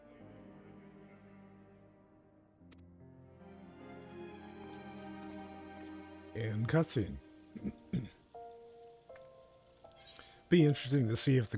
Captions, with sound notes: (soft music) - And cutscene. (clears throat) Be interesting to see if